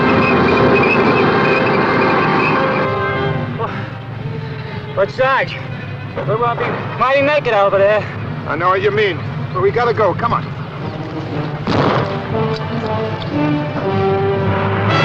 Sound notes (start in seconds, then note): 0.0 tank rumbling; 11.6 explosions; 13.0 instrumental music